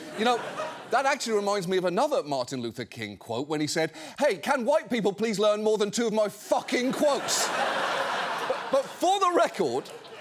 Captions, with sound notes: You know, that actually reminds me of another Martin Luther King quote when he said, "Hey, can White people please learn more than two of my fucking quotes? (STUDIO AUDIENCE LAUGHING) But for the record,